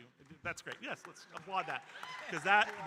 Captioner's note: audience cheering